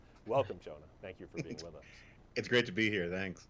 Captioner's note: Jonah laughs